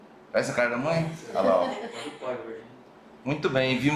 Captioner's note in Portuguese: risos